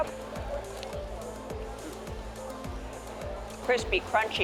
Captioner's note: crunching